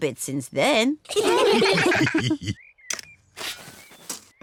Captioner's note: all laugh